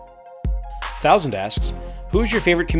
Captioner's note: voiceover